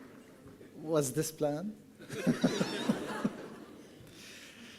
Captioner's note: laughing